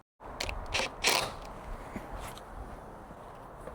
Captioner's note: drill whirring